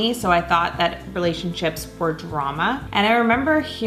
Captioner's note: none